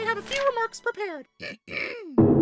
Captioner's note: clears throat